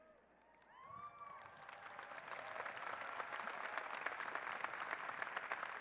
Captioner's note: cheers and applause